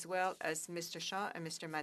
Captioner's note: speaking French